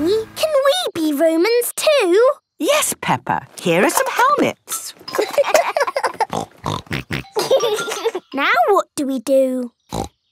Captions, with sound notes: can we be Romans too? - Yes, Peppa! Here are some helmets. (laughing) (snorting) - Now what do we do? Snort!